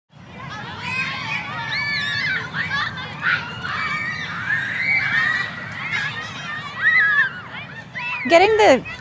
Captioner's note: kids playground noise